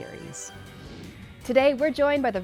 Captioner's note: graphic whooshes